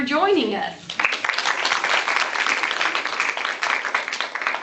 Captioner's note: applause